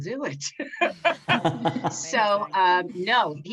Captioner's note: all laugh